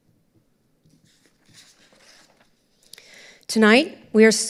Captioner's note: papers rustling